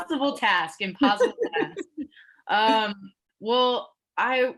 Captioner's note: laughs